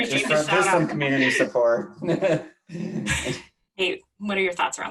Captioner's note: laughs